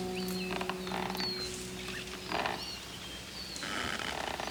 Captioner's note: rope creaks